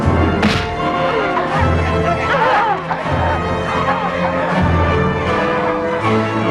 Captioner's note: women clamoring